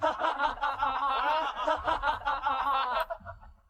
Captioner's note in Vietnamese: tiếng cười